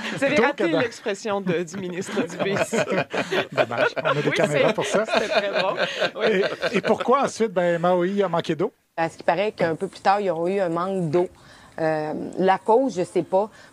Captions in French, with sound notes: - Vous avez raté l'expression du ministre Dubé. (rires) - On a des caméras pour ça. Et pourquoi, ensuite, Maui a manqué d'eau? - À ce qu'il paraît qu'un peu plus tard, ils ont eu un manque d'eau. La cause? Je sais pas.